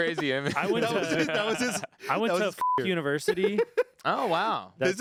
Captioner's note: beep